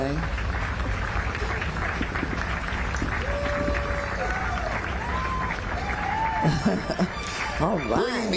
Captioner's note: applause